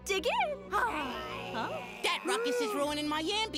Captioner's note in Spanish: gruñidos